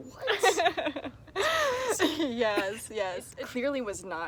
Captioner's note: laughs